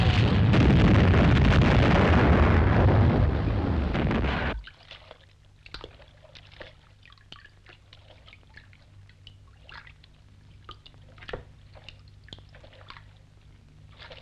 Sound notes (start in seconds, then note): 0.0 bombs crashing; 4.6 water sloshing